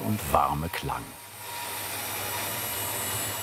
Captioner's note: whirring of the saw